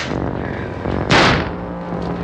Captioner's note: gunshot